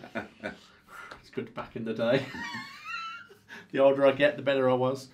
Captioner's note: laughs